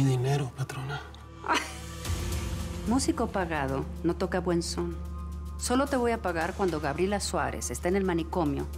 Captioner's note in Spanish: Risas